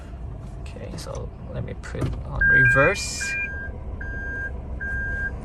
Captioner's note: beeping Sound